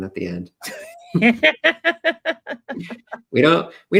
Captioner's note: laughs